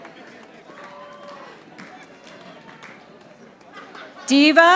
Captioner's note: audience applauding